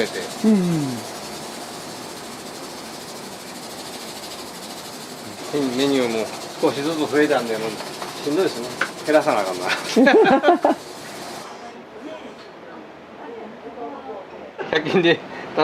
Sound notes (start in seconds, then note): 9.9 laughs